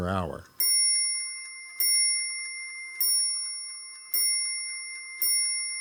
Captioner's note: clock chimes six times